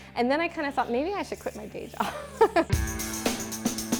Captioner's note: laughs; energetic music